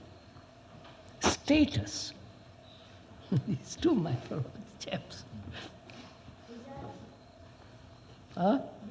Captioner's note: laughs